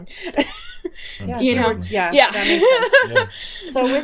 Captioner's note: laughing